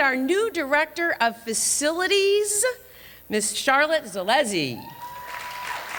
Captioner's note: applause